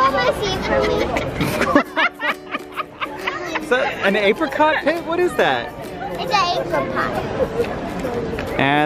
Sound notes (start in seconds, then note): 0.8 laughter